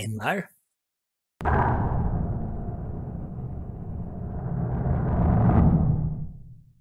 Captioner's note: explosion, shockwave